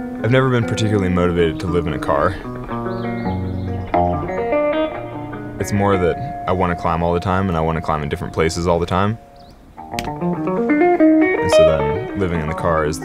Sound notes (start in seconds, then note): 0.0 gentle rhythmic music; 9.7 gentle music; 9.9 button clicking